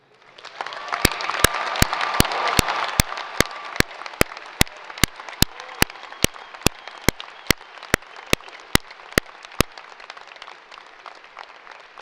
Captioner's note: applause